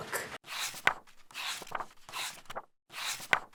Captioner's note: pages turning